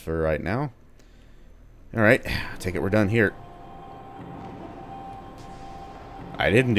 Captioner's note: doors opening